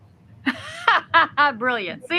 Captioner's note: host laughs